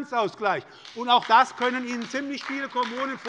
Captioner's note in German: Beifall bei der SPD